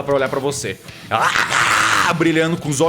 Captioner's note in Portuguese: Grunhidos